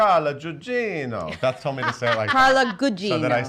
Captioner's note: laughs